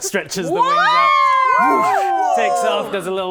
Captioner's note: cheering